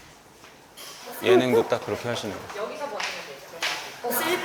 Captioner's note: murmuring